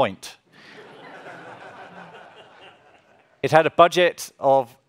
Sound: audience laughs

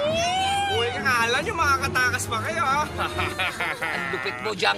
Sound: laughs

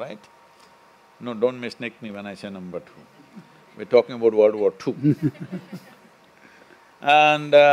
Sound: few laugh; laughter

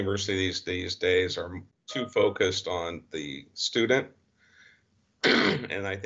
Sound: clears throat

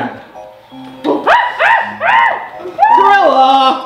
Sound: gorilla growling

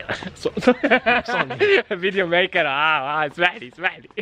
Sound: laughter

